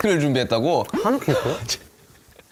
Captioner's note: cracks up